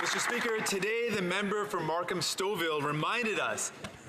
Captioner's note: some Applause